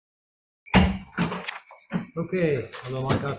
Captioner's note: gavel pounding